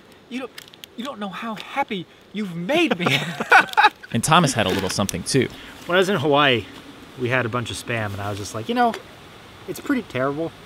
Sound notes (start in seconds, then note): 2.8 both laugh